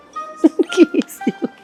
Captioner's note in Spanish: ríe